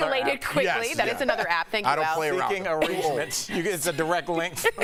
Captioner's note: laughter